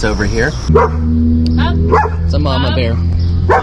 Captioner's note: Moxy barking